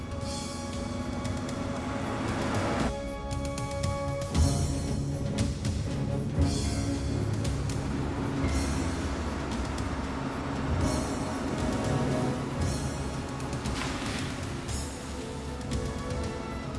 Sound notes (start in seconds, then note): 1.8 van rumbling; 3.7 suspenseful music continues; 13.7 water splashing